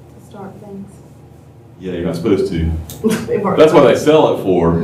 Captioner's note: laughter